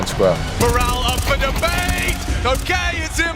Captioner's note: gun firing